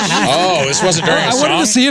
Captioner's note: laughing